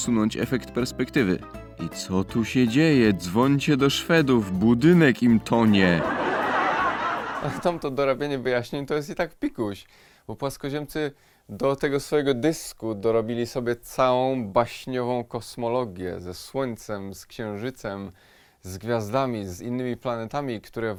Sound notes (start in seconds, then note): 5.7 laugh track